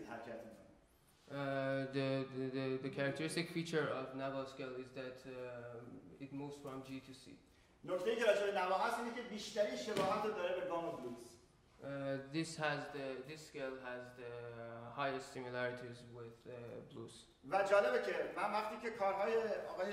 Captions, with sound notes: The characteristic feature of Nava is that it moves from G to C. [SPEAKING IN FARSI] This scale has the highest similarities with blues. [SPEAKING IN FARSI]